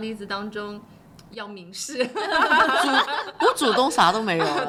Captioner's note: laughter